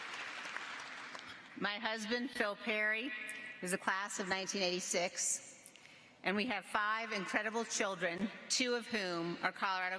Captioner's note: applause